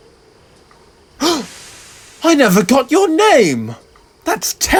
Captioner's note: gasp